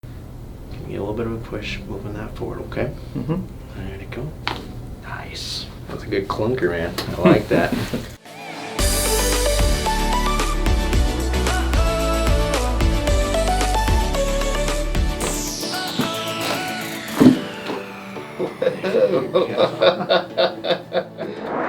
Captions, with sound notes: - Give me a little bit of a push, moving that forward, okay? - Mm-hmm. - Let it go. (popping noise) Nice. That was a good clunker, man. I like that. (upbeat music) (popping) (popping) (man laughing)